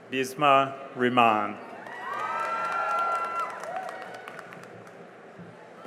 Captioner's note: cheering and applause